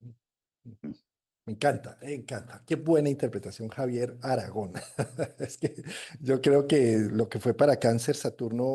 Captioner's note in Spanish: risas